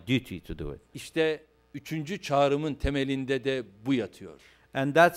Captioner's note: non-english speech